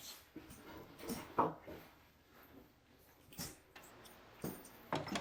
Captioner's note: belt thuds